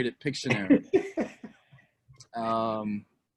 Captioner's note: laugher